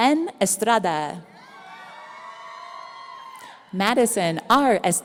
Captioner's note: audience cheering